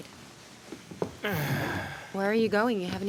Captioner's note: groans